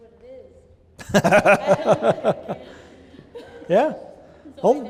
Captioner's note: laughter